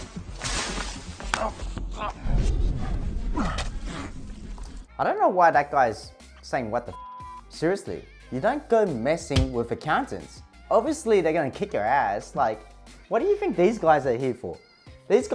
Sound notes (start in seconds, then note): 6.9 beep